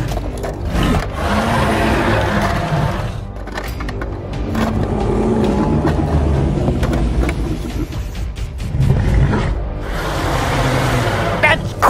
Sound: albertosaurus roaring; albertosaurus hissing

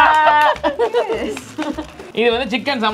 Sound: laughs

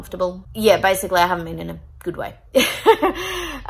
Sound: laughs wryly

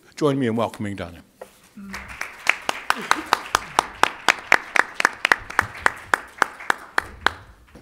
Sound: applause

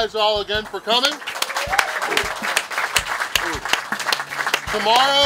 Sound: cheering & Clapping

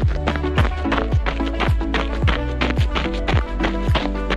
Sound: snow and ice crunching

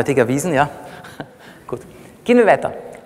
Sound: laughs

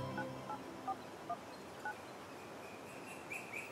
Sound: phone dialing

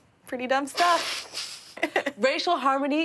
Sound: laughing

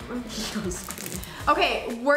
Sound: laughs

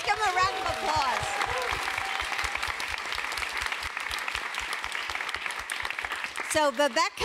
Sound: applause

